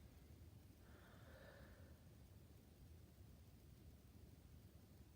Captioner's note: breathing deeply